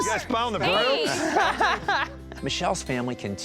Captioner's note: laughs